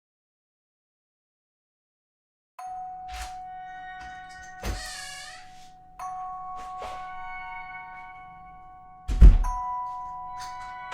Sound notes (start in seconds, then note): 3.0 door opens; 9.0 door closes